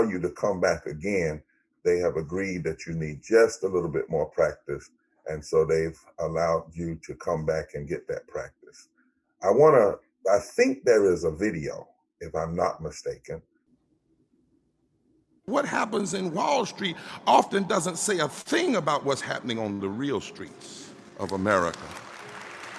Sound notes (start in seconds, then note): 15.6 voiceover; 22.5 crowd cheering